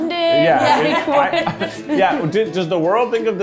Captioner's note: chuckles